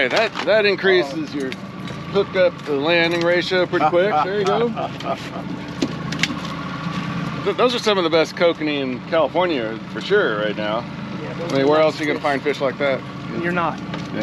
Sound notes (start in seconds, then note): 3.7 laughing; 6.8 fish thrashing